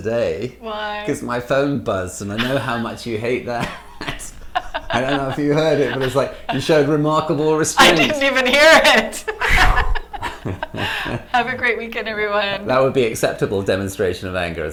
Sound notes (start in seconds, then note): 3.6 laughs; 9.1 laughs